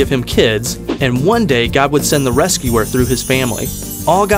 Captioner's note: chimes